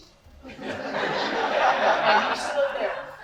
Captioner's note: audience laughter